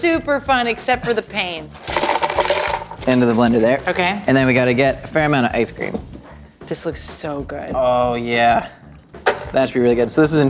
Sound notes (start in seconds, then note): 1.7 ice clinking